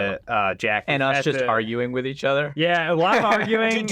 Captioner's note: laughs